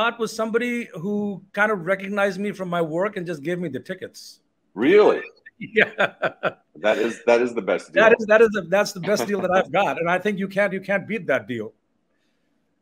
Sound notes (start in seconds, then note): 4.8 laughing